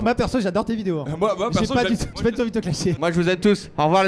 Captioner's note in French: rire